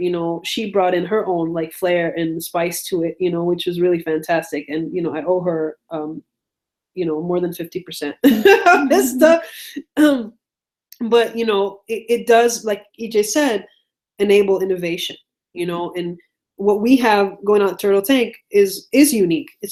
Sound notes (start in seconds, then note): 7.9 laughs